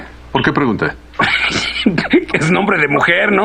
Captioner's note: scoffing